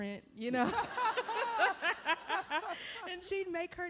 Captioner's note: laughter